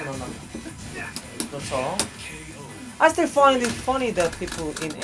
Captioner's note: speaking english